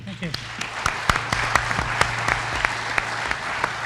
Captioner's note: applause